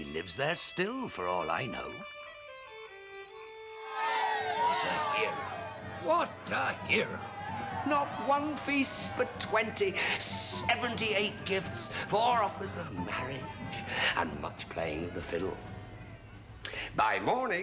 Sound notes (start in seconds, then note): 4.6 all cheering